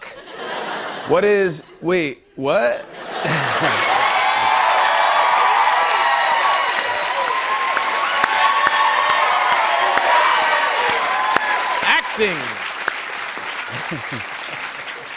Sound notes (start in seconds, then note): 0.1 laughter; 3.9 cheering and applause; 13.7 chuckle